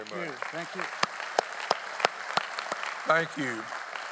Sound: audience applauding

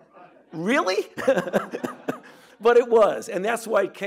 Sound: chuckling

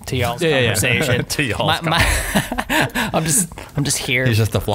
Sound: laughter

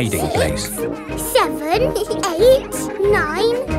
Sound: both giggle

